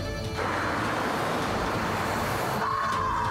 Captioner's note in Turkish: Bağırıyor